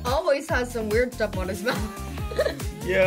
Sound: laughs

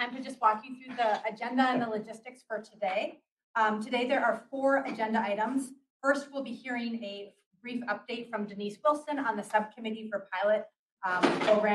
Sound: papers drop

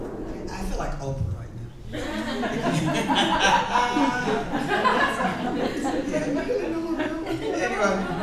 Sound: laughs

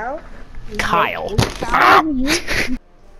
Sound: screams

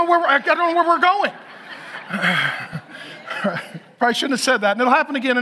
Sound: audience laughs

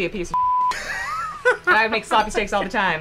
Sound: laughs

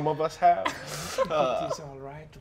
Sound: laughing

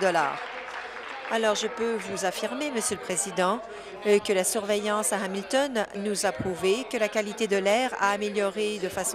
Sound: applause

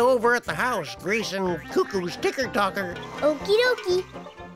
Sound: slurp

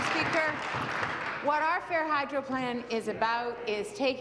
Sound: applause

